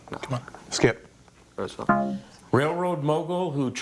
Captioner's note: scoreboard buzzes